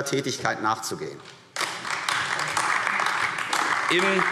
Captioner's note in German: Beifall AfD